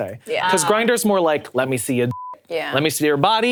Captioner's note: beep